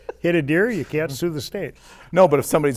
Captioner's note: laughter